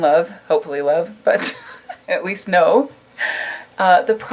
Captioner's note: laughs